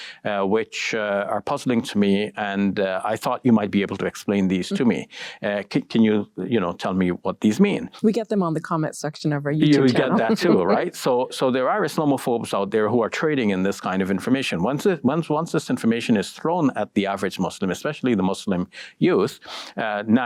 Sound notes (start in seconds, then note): 9.7 giggles